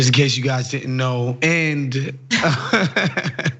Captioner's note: laugh